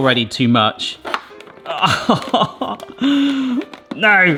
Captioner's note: pie maker taps; laughs